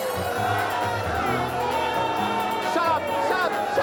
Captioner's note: news reporter speaks in foreign language; crowd members yell